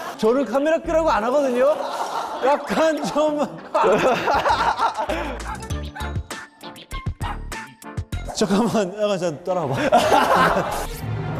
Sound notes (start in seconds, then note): 3.8 laughing